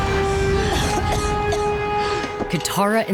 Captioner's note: coughing